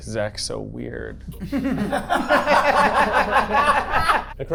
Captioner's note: everyone laughing